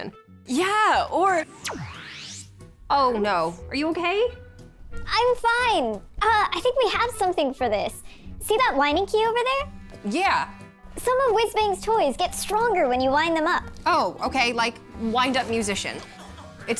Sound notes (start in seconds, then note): 1.2 whooshing; 4.8 in high-pitched voice